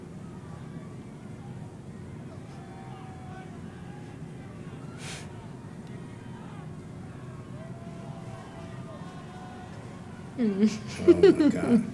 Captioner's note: laugh